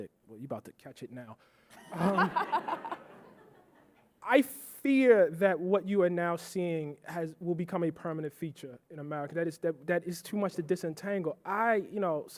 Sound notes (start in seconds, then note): 1.8 audience laughing